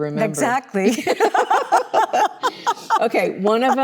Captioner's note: both laughing